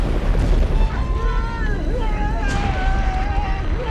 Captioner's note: yelling